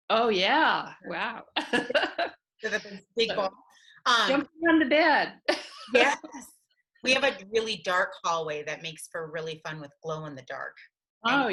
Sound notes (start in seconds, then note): 1.6 laughing